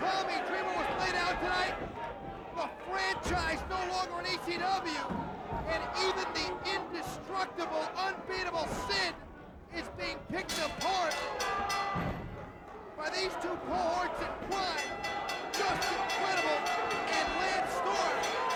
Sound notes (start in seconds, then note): 11.0 bell rings